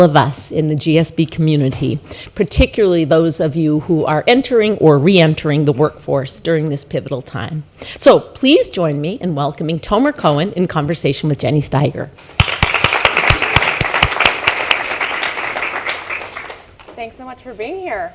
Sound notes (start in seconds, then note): 12.3 applause